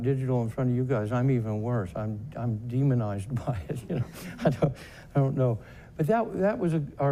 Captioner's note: laughs